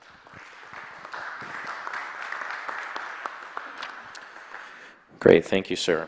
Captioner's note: applause